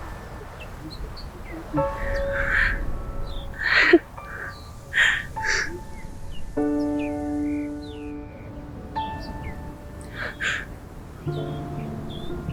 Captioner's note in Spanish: resoplido